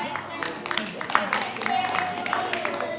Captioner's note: clapping